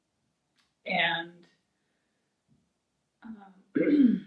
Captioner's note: clears throat